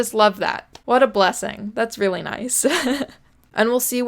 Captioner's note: giggles